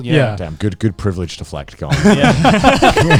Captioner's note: laughing